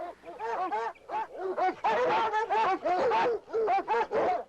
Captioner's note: barking